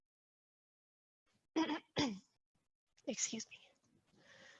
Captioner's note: clears throat